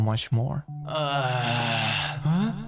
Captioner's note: grunting